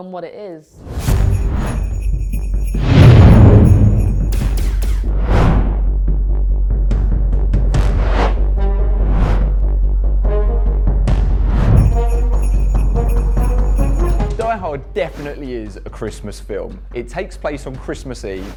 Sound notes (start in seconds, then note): 1.0 bells chiming; 2.6 gun shooting; 5.0 drums beating; 8.1 trumpets blaring